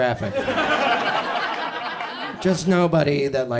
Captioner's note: audience laughs